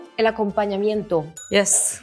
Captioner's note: speaks in Spanish; bell dings